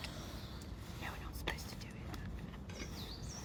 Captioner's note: whispering